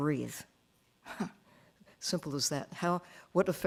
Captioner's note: chuckling